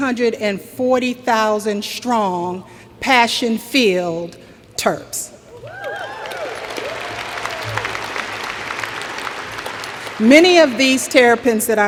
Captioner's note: cheers and Applause